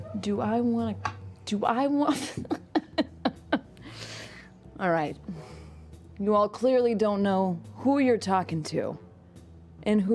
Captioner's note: laughs